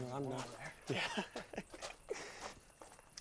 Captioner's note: chuckles